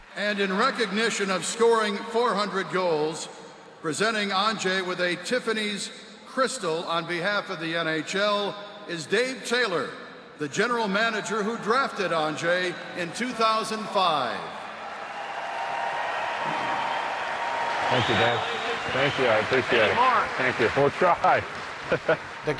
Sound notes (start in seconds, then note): 14.6 fans cheering; 21.9 laughs